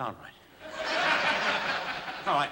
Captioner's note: laughter